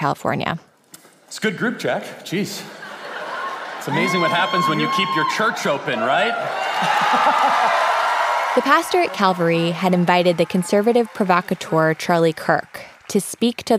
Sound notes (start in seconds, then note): 2.7 audience laughter; 6.4 cheers